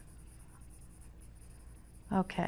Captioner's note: pencil scratching